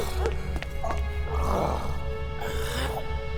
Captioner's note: gurgles